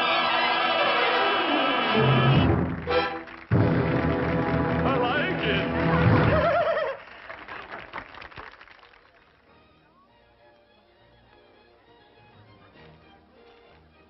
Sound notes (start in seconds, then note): 5.8 giggling; 9.3 light waltz music